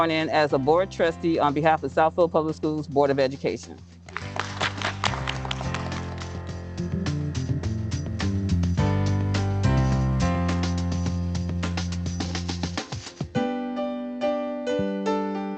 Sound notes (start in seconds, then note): 4.0 applause; 6.5 upbeat music